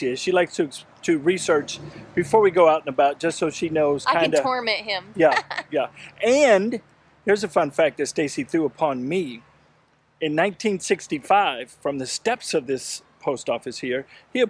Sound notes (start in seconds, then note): 5.1 laughs